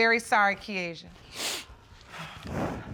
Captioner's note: sniffles